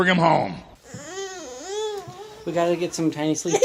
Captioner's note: cyring